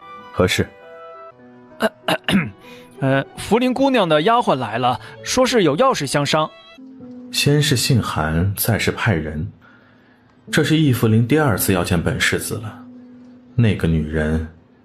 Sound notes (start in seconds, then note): 1.8 coughs violently